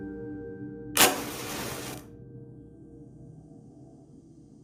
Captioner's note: sound of match lighting